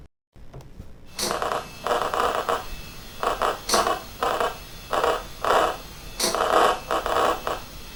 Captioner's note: clicking sound